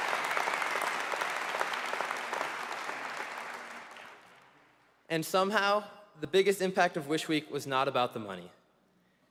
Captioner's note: applause